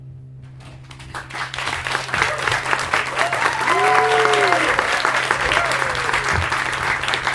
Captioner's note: applause and cheering